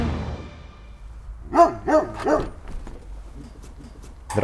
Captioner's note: dog barking